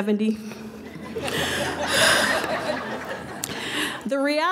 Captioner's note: laughing